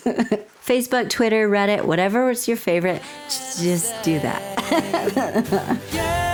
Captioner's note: laughter; laughter